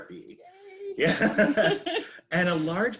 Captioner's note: both chuckling